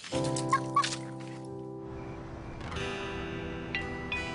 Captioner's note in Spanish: Risas